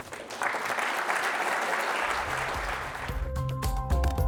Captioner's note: audience applauds